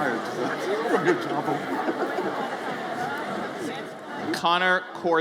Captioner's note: audience chattering